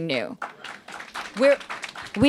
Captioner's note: applause